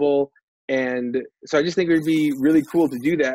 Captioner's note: buzzer